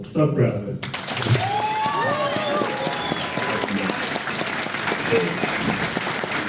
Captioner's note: applause